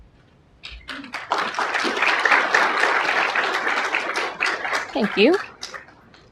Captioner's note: applause